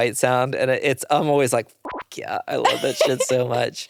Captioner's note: beep